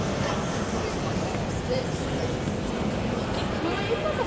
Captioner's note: chatter chatter chatter